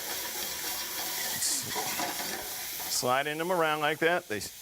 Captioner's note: sizzling pan